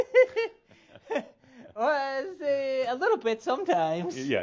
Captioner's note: he chuckles